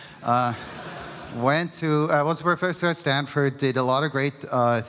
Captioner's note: laughter